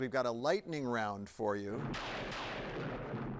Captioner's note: lightning cracking